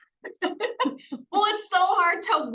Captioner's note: person laughing